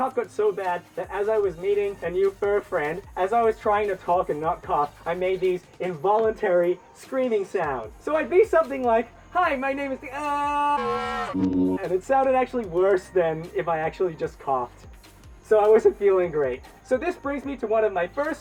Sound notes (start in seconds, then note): 10.1 screams